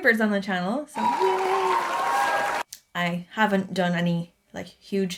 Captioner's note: round of applause and elated screaming sounds